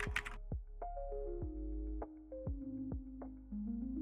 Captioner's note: keyboard typing